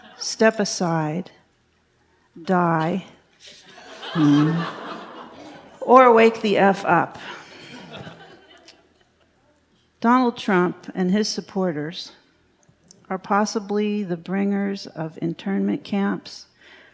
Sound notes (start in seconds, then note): 3.5 audience laughs